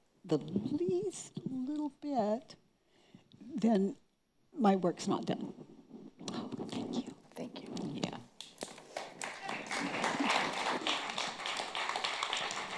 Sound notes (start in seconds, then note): 8.6 audience applause